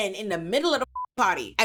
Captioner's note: beep